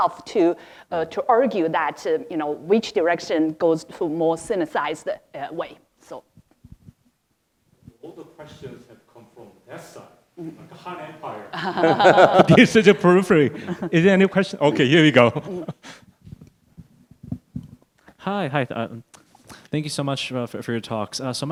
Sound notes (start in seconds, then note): 11.3 laughing